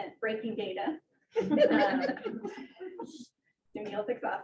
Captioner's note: audience laughing